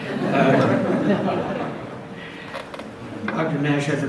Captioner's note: audience laughs